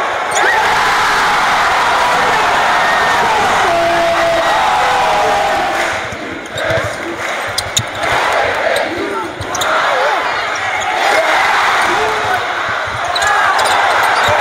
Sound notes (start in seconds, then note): 0.0 explosive cheering; 5.7 crowd chanting; 10.9 cheering